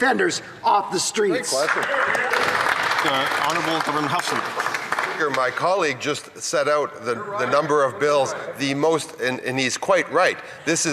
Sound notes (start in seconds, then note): 6.3 some Applause